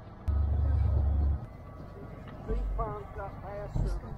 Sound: engine whirring

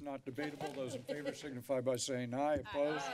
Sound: laughter

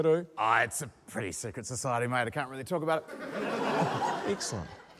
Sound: laughter

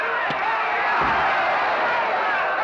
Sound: crowd roars

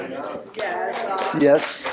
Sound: applause

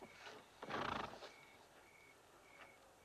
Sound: horse snorts

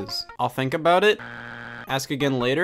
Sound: buzzer beeps

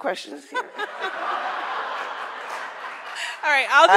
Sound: audience laughs

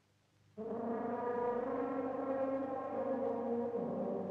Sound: echoing horn blast

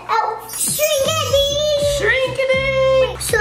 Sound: twinkling noise

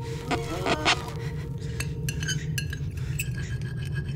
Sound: suspenseful music; record scratching; suspenseful music

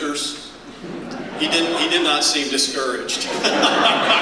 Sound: laughter

